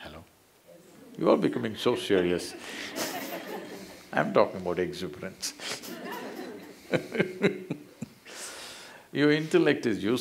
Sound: laughter

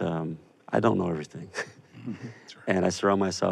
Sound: chuckles

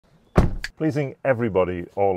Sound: vehicle door thuds

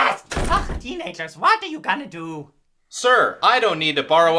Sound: door slams

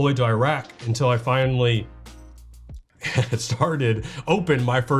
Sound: laughs

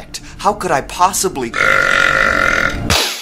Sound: buuuuuurp

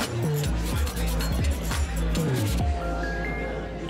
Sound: people chattering

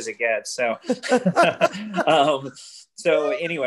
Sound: laughs

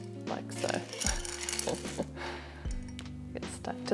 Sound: chuckles

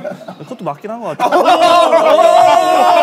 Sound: studio is chattering

